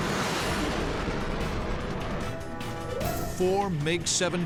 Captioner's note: jet engine noises